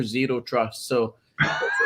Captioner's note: laughs